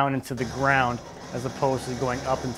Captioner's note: engine whirring